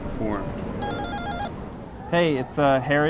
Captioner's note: ringing